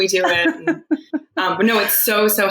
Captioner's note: laughing